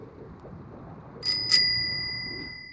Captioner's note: bicyle bell